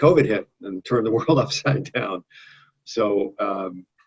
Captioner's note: laughs